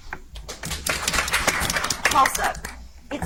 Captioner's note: audience applauds